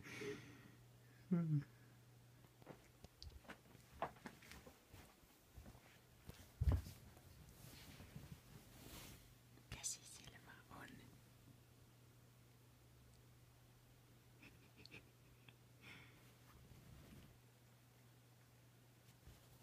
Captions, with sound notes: *whispers* It's just my hand in there...